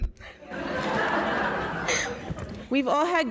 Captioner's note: audience laughs